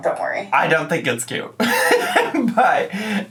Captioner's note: laughs